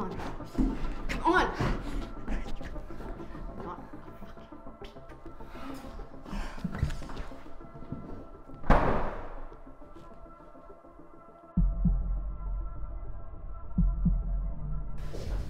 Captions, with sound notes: Come on. Come on. Not a fucking peep. (door slamming) (heart pounding)